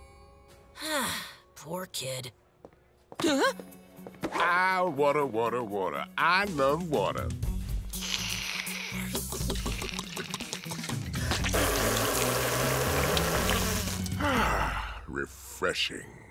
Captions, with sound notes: [sighing] Poor kid. [footsteps approaching, gasping] Ah, water, water, water. I love water. [slurping] [Nate spitting] Ahh. Refreshing,